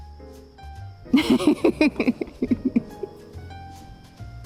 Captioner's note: laughing